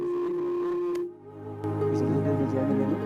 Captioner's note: microphone interfering